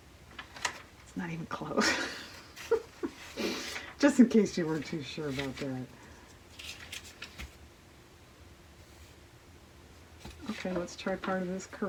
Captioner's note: laughs